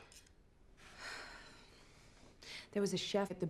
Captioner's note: cutlery clattering; Kate sighs